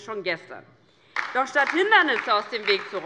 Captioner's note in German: Beifall DIE LINKE